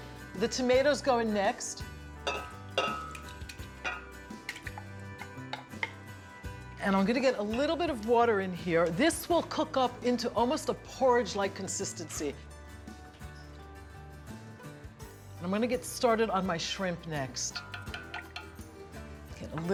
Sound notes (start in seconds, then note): 2.8 plopping; 17.5 tapping